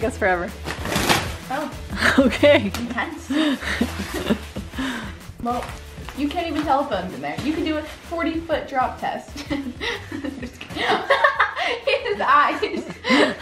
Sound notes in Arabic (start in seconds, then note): 3.2 ضحك; 9.4 ضحك